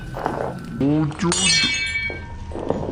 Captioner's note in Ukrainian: розбилася люстра